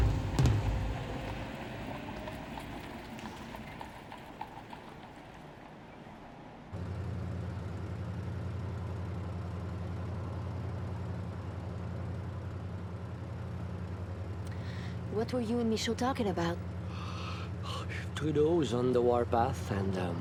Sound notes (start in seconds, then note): 7.3 car engine roaring